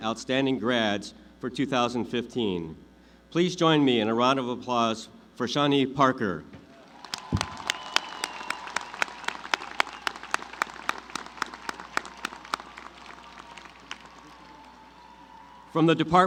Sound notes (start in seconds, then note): 11.6 applause